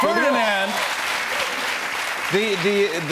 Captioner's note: applause